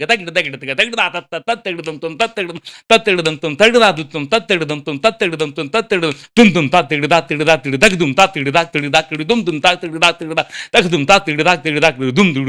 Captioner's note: vocalizing rhythmic drum patterns; vocalizing complex drum solo beats